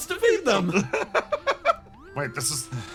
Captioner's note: laugh